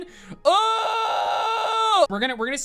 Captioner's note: reversed yell